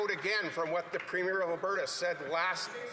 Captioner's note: some Applause